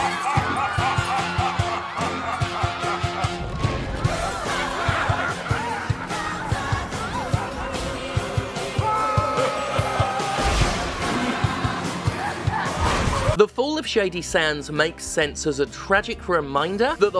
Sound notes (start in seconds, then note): 0.1 mwahahaha; 3.6 screams